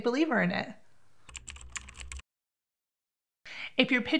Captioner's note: typing